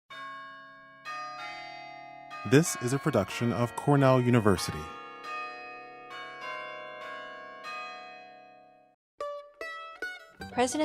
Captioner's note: bells ringing